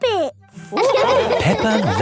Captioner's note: all laughing